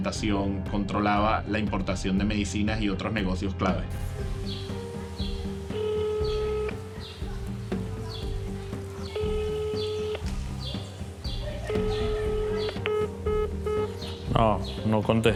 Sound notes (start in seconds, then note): 5.4 phone line ringing; 13.1 line disconnected